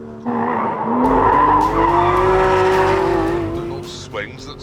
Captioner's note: tyres screech